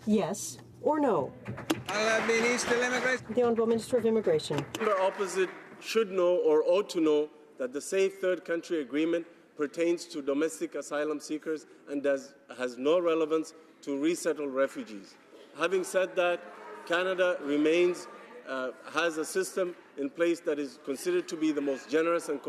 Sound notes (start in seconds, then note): 4.5 some Applause